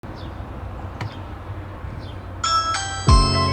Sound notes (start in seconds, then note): 0.0 birds chirping; 2.4 door bell ringing